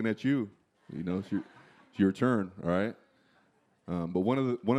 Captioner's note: laughter